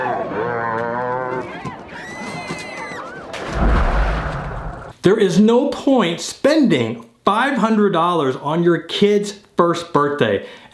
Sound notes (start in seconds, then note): 2.0 child shrieking; 3.4 water splashing